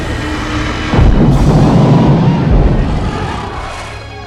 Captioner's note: dragon thuds